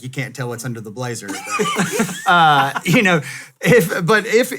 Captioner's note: laughs